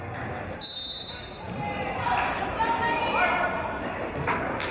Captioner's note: referee's whistle